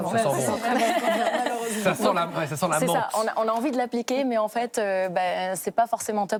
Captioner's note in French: rires